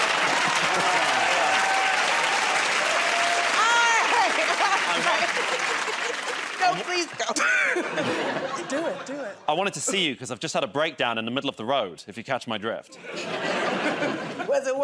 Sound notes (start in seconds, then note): 0.0 cheering and applause; 0.3 laughter; 4.2 laughs; 7.9 chuckles